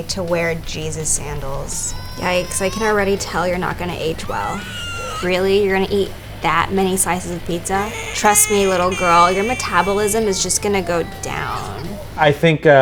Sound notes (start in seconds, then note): 4.7 baby screaming in the background